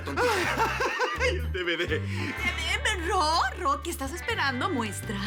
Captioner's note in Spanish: Risa nerviosa